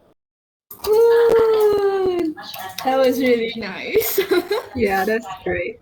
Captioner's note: cheering; laughs